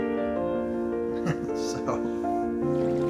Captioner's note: chuckles